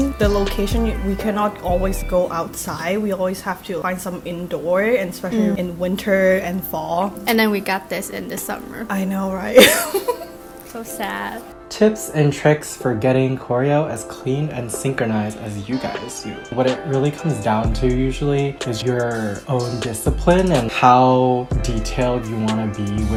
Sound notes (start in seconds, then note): 9.5 giggles